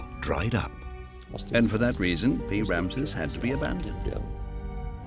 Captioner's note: in German